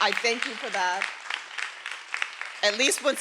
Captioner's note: everyone applauding